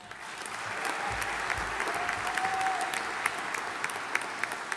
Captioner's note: audience applauding